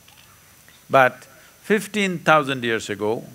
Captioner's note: none